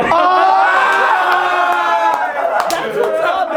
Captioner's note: screaming